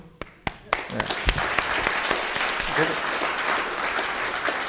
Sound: audience applauding

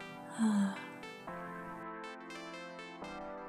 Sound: wistful sigh

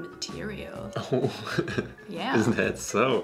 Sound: chuckles

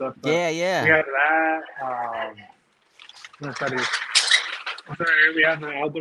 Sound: speaking foreign language

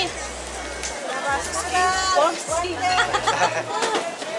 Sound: laughter

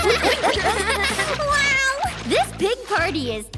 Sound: laughing

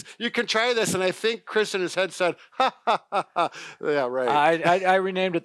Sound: laughs

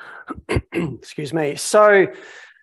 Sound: clears throat

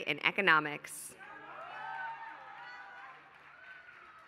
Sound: applause

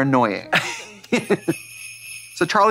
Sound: sleigh bells jingling

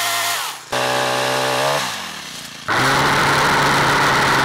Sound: chainsaw rumbling

